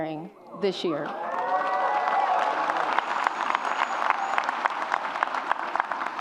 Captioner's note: audience applauds and cheers